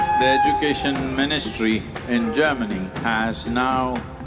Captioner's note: cheering/Applause